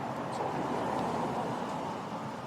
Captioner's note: vehicles driving